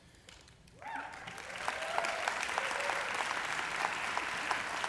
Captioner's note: applause